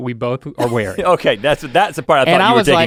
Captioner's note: Rhett chuckles